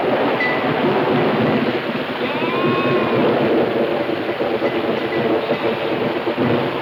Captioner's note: thunder claps; wind howling